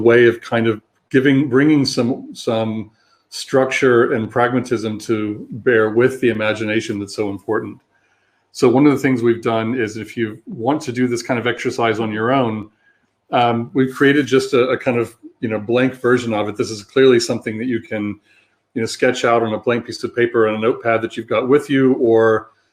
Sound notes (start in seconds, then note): 15.1 erm